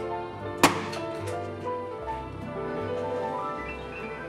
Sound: balloons pops

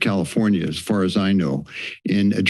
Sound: inhales

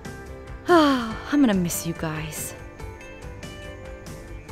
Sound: sighs

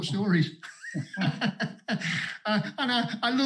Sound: both laugh

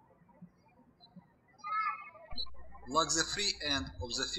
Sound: birds chirping

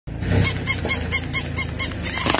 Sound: squeak x7

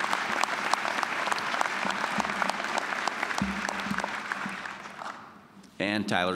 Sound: applause

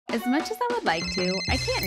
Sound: upbeat music; phone ringing; app notification chiming

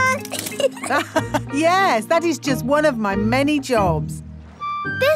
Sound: laughs

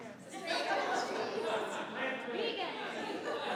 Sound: laughing

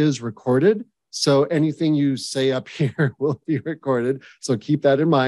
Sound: chuckles

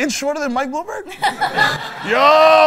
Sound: laughter

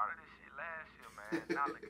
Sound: Anthony Laughs

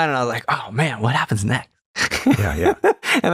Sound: laughter

